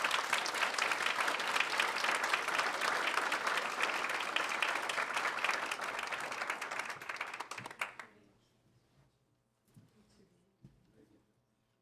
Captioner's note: applause